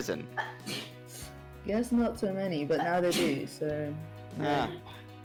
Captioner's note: annoying ass sneezing